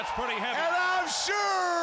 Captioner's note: crowd cheering